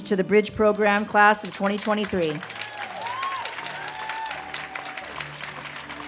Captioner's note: audience cheers and claps